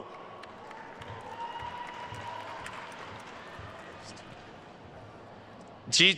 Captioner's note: attendees cheering and applauding